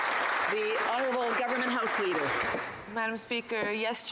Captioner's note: some Applause